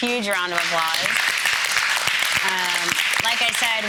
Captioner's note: audience applauding